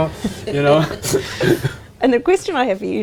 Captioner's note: laughing